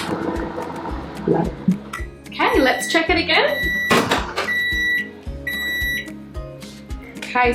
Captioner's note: microwave beeps